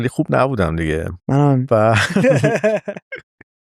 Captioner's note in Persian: خنده